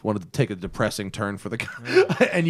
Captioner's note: laughter